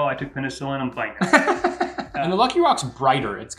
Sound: laughing

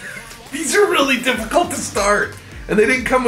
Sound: laughs

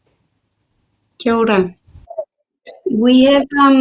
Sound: speaks maori

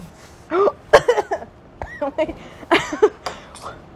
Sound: gasp, coughing

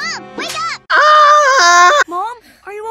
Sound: screams like I.M. Meen

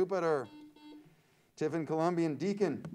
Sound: buzzer sounds

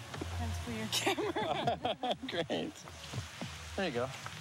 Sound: laughing

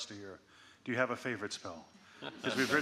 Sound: audience laughing

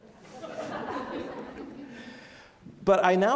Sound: audience laughs

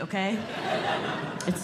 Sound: audience Laughing

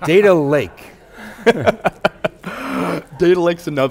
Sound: laughter

